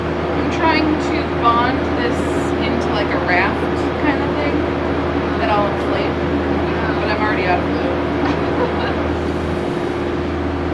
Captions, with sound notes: I'm trying to bond this into, like, a raft type thing, that I'll inflate... but I'm already out of glue. (laughter)